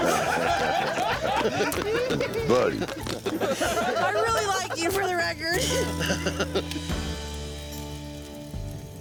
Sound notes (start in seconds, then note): 0.0 laughter; 6.1 laughing